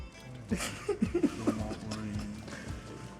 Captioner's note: laughs